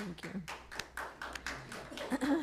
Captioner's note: clapping